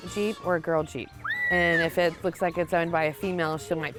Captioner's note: little girl screams